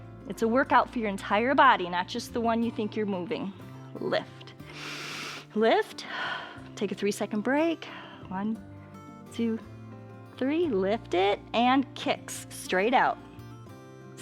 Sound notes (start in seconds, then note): 4.6 exhales; 4.7 inhales